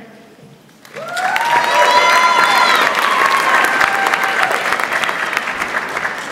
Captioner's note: audience applauds and cheers